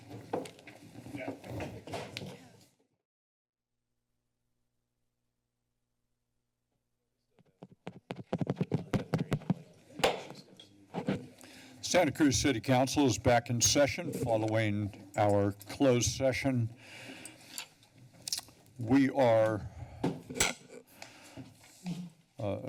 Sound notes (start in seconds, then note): 7.4 microphone scratches; 10.2 gavel pounds